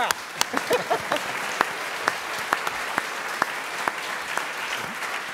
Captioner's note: everyone applauding; chuckles